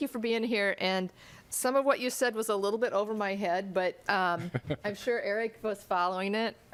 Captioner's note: laughter